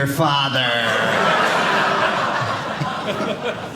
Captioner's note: audience laughing